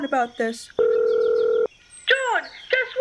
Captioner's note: electric dialing sound